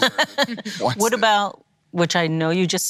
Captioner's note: laughing